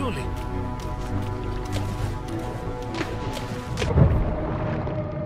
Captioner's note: spash